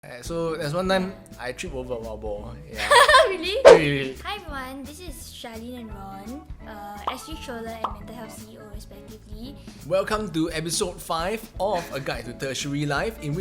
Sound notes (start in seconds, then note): 2.8 laughs